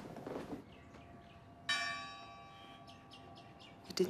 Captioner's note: bell ringing